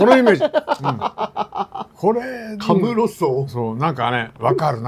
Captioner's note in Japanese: 笑い